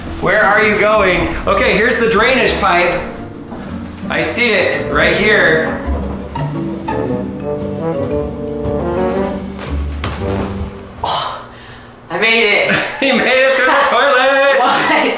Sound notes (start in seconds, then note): 11.0 sighs; 12.7 chuckles